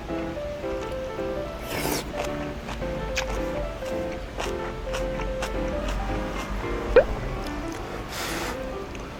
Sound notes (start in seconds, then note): 3.1 crunch, crunch